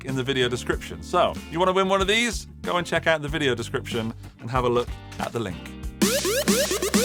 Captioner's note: tape rewinding